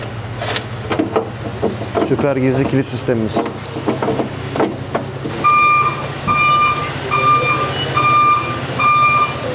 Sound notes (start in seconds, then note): 0.0 repair Noise; 4.9 repair Noise